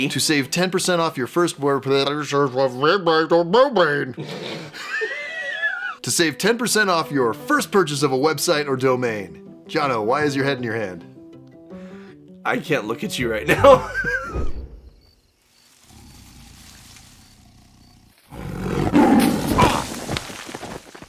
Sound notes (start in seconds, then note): 18.3 growls